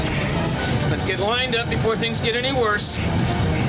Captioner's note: groans